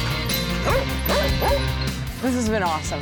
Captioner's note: barking